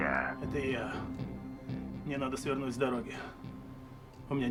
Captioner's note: speaking foreign language